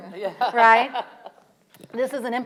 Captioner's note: audience laughing